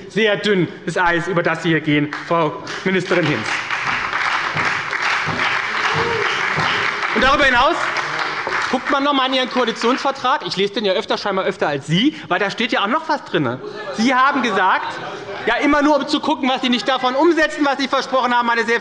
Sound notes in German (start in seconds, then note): 5.9 Beifall bei der SPD, der LINKEN und der FDP